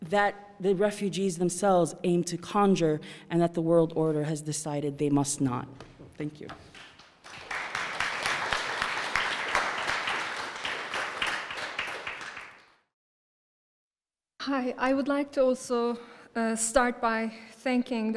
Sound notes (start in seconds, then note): 6.6 applause